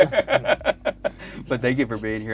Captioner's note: laughing